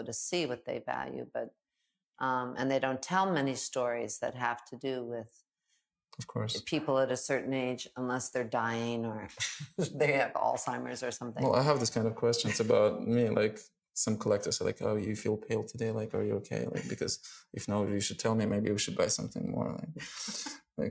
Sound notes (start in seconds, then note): 9.4 laughing; 12.4 chuckling; 20.0 chuckling